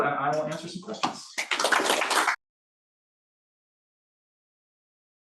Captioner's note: audience applauds